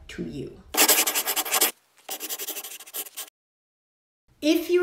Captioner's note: scribbling